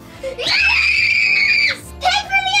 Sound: girls cheering

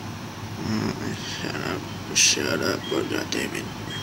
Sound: in drunken voice

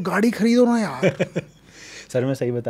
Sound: laughs

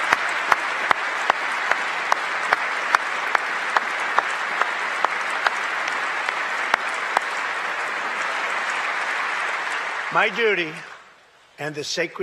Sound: applause

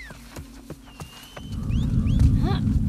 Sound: response whistle!!

